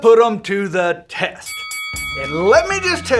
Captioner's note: bell rings